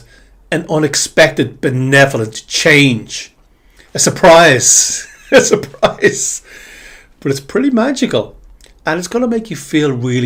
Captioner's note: laughter